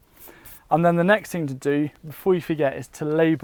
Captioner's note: hands rubbing together